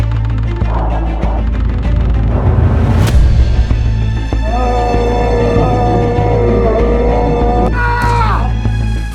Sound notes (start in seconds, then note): 4.4 painful howl